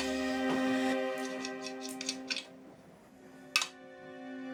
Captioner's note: opening flask